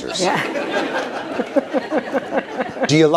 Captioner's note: laughter